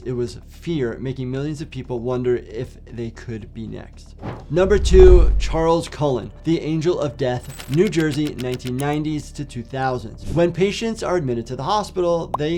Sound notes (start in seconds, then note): 4.6 transition whooshes; 7.4 typewriter clicks